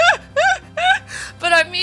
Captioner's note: laughter